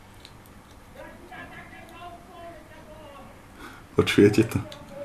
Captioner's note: background shouting